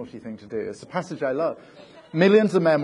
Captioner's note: audience laughing